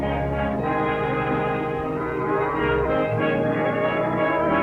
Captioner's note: lofty orchestral music; cattle low